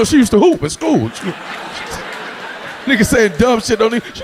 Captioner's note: audience laughing